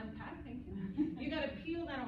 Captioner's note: laughter